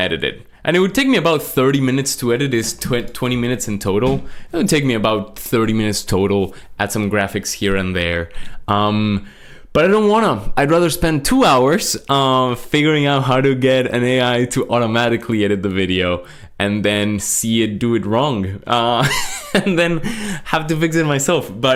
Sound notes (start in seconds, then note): 19.0 laughs